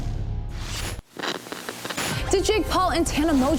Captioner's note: static crackling